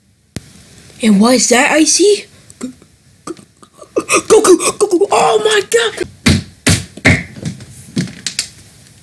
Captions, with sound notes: And what is that I see... G..GG...GOKU oh, my god! *Slamming head on desk*